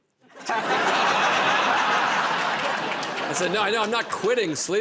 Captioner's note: laughter